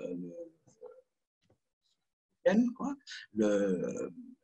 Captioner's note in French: coupure audio